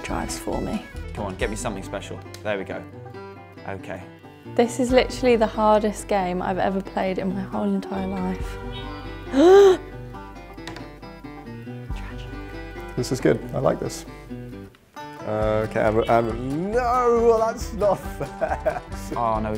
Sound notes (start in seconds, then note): 9.2 gasps